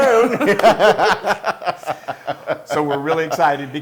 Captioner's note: laugh